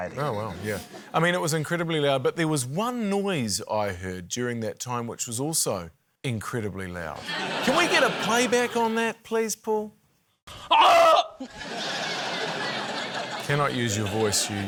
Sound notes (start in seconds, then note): 7.2 laughter; 10.6 screams; 11.4 laughter